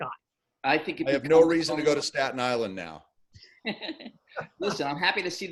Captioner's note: laughing